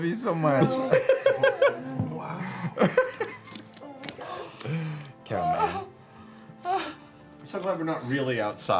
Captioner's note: laughter